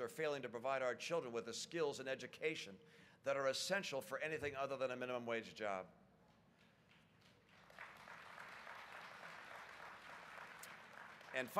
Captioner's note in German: Applaus